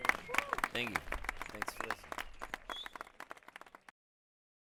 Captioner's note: applause